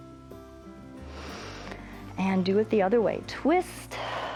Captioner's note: inhales